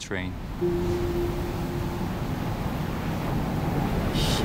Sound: water crashing on shore

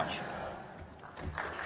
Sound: applause

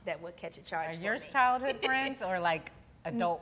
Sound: laughs

